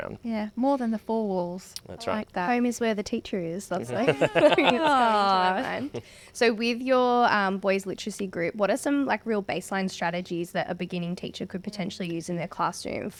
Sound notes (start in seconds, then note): 3.9 all laugh